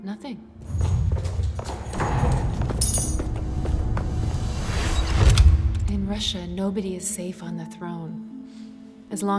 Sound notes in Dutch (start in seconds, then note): 0.6 stampende voeten; 2.9 metalen gerinkel; 5.3 deur slaat dicht